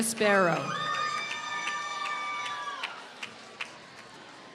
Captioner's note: applause